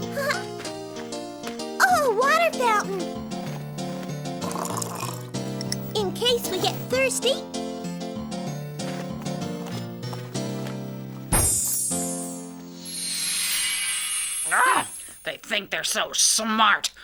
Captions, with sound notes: Oh a water fountain! (water dribbling) In case we get thirsty. (sparkling) (groans) - They think they're so smart!